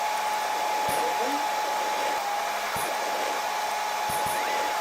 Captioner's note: Tijeras chasquean; Rociador sisea